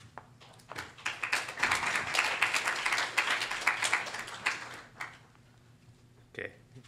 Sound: applause

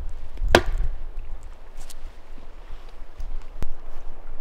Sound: wood smacking

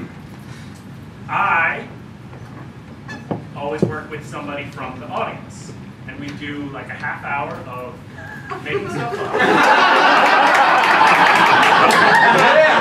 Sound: peals of laughter

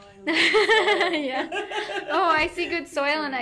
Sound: both laughing

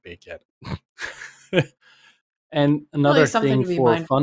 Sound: laughs

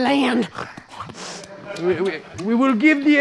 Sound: snorts

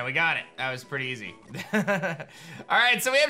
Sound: soft laugh

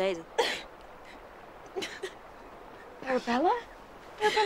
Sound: Arabella sobbing

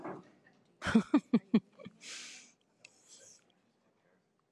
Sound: person laughing

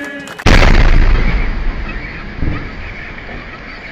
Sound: sound of explosions

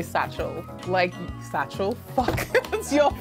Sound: laughs

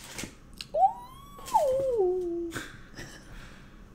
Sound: laugh

